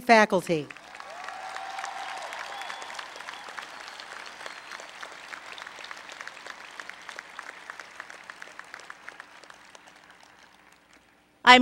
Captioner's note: applause